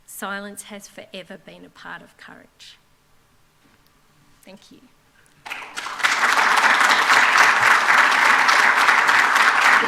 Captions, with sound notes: Silence has forever been a part of courage. Thank you. [APPLAUSE]